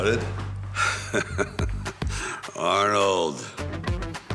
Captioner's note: Sylvester laughing